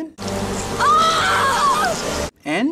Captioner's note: actress screaming